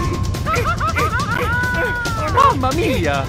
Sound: screaming

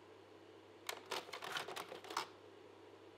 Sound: slide projector clicks

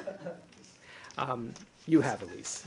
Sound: laughter

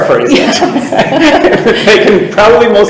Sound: people chuckle

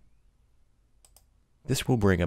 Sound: clicking

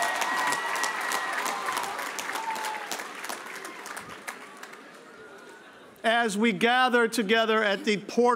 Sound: cheers and applae

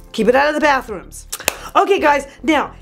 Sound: clap

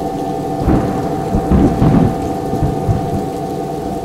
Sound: thunder and rain

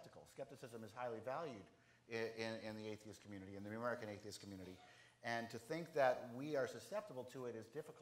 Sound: none

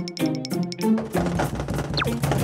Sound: knock! x3

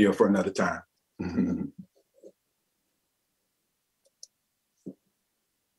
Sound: laughs

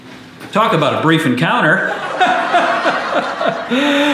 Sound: laugh track

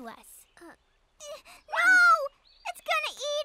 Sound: exclaims

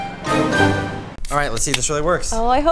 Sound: gas hissing

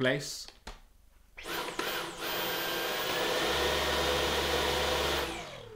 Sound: vacuum whirring

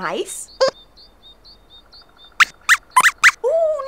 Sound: squeaks squeaks

